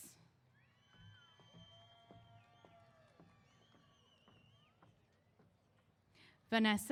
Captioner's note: cheers